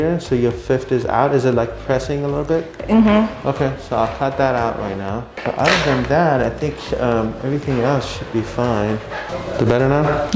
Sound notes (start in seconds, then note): 5.4 drawer rattles